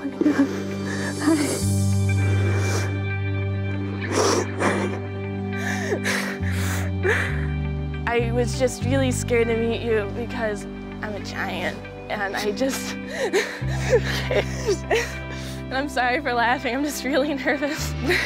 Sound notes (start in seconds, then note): 1.4 reflective music; 5.0 sighing; 12.4 laughs